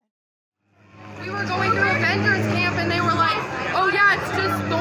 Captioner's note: passerby chatting